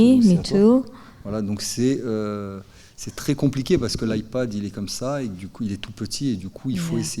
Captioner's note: speaking in French